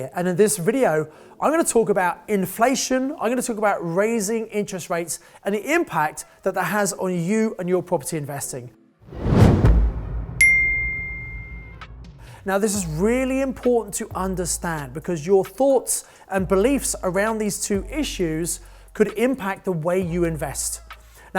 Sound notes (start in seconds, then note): 9.0 logo whooshes; 10.4 bell dings